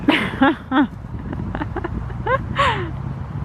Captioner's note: laughing